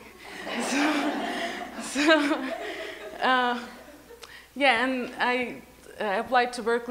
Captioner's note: laughs